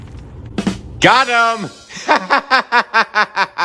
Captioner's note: laughing